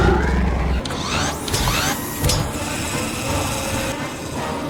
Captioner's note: raptor groans; robot arms whirring